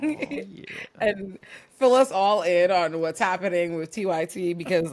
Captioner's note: laugh